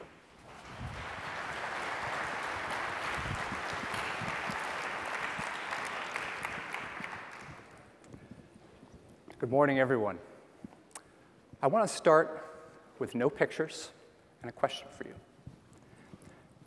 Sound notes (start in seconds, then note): 0.4 applause